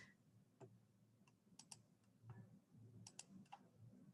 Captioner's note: mouse clicking